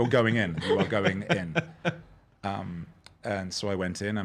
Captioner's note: laughing